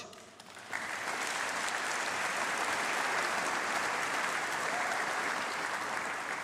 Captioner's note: applause